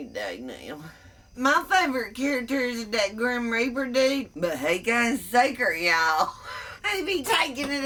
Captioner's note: laughs